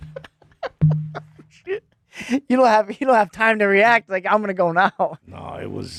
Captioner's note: laughing